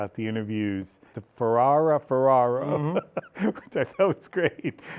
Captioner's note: laughs